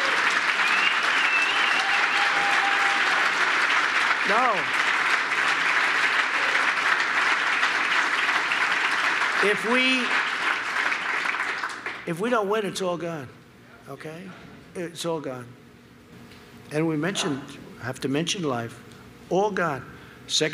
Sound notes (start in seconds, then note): 5.6 applause